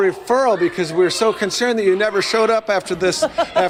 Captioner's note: laughter